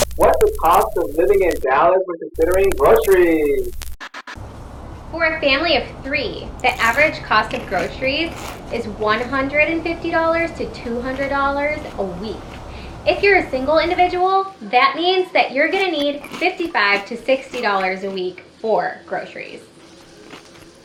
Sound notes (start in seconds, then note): 3.8 soft static sound